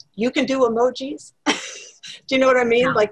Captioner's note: laugh